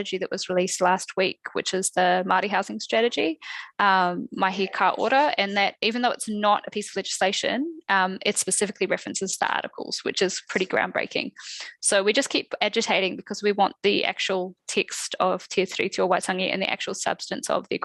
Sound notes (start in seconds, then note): 3.6 non-english speech; 15.4 non-english speech